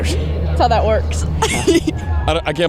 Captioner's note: laughs